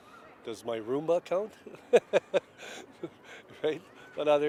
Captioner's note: chuckles